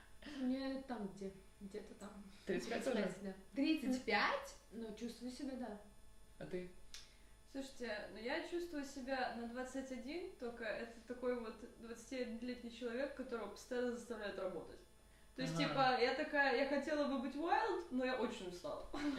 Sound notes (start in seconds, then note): 4.2 read with emotion